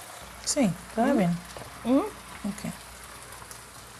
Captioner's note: speaking spanish